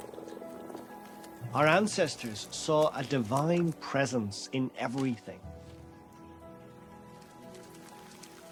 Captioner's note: voice-over